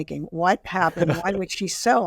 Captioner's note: laughing